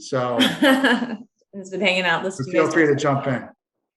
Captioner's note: laughs